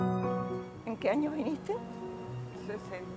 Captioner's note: foreign language